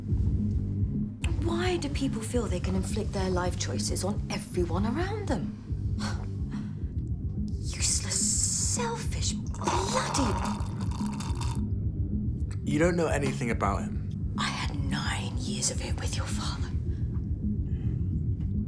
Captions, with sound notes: Why do people feel they can inflict their life choices on everyone around them? Useless, selfish, bloody... [slurping] You don't know anything about him. I had nine years of it with your father.